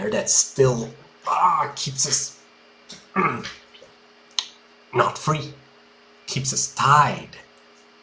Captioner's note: grunt